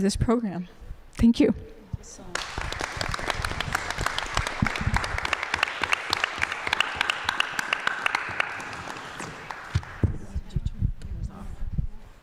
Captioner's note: applause